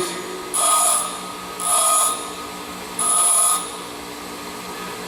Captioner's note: metal buzzing against grinder